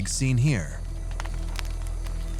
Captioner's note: fire crackling